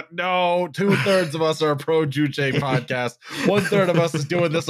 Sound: laughter

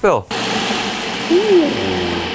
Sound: machine whirring

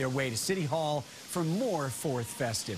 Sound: cheers and applause

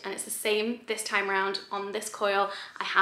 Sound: none

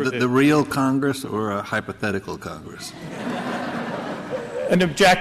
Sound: laughter

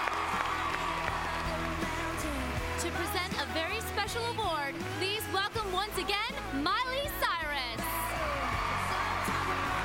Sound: cheers and applause

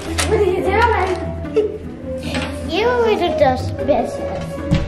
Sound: chuckles

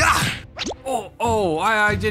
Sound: kiss

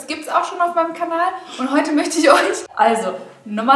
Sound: laughing

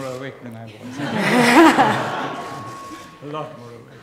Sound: laughter

